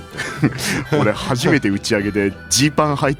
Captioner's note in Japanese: 笑い